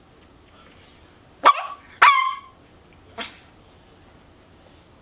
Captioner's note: puppy barking and being frustrated